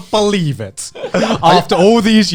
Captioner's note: all laughing